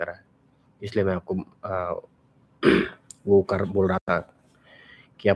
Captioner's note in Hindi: गला साफ़ करने की आवाज़